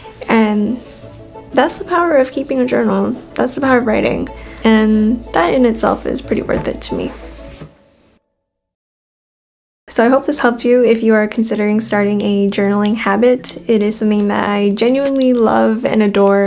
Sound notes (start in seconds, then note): 7.0 book whooshing